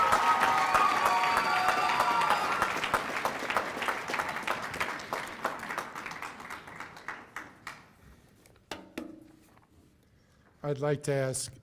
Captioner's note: cheers and applause